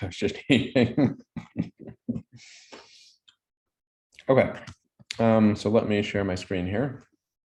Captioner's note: laughs